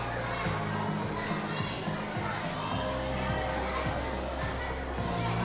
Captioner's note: audience chattering continues